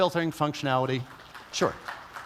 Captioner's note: applause